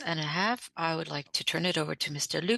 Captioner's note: speaking French